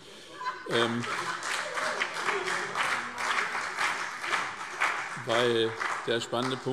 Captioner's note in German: Heiterkeit und Beifall SPD und BÜNDNIS 90/DIE GRÜNEN